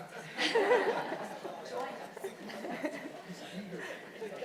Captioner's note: people chuckling